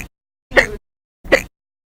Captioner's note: hic!